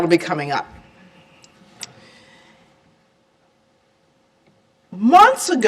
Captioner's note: silence